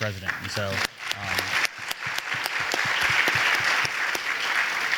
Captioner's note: audience applauding